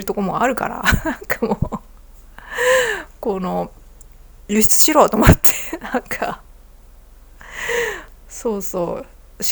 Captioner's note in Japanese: 笑い